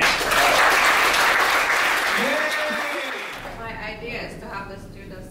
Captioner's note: audience applause